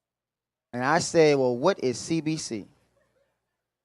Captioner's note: none